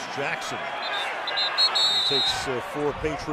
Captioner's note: whistle